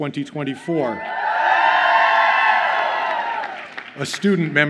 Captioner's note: audience cheers